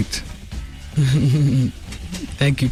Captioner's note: laughter